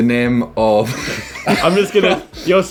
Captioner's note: laughing